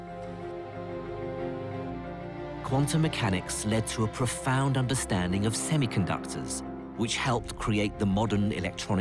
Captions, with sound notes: - [Voiceover] Quantum mechanics led to a profound understanding of semiconductors, which helped create the modern electronic age.